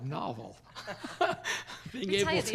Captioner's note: laughs